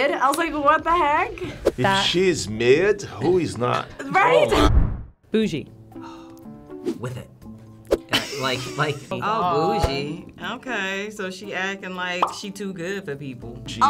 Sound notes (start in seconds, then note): 0.8 claps; 7.4 chuckles; 12.2 bubble pops